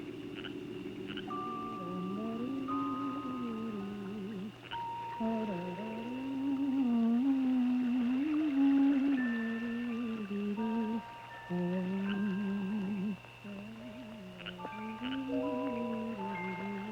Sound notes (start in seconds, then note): 1.0 woman humming